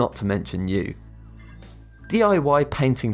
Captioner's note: futuristic ringing